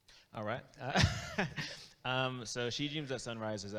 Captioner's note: laughs